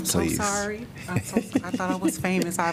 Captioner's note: laughter